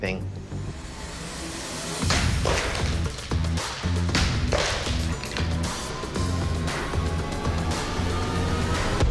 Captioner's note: pots shattering